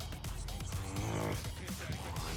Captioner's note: growling